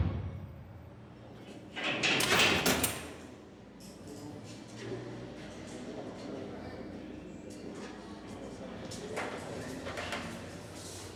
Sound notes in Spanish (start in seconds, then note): 1.8 sonido al abrir rejas